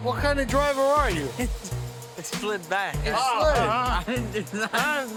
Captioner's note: laughs